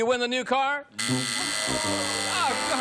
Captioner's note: buzzing